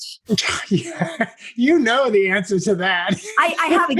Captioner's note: laugh